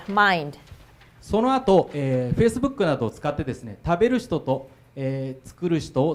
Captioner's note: speaking foreign language